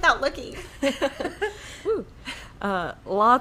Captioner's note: laughing